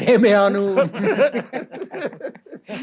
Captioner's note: haha